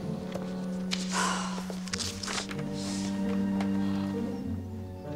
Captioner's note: queen sighs